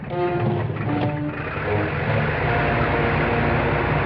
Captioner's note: plane whirring